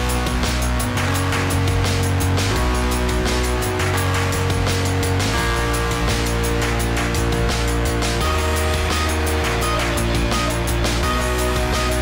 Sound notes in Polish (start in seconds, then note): 3.9 Aplauz